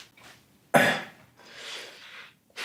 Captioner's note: The Grim Reaper coughs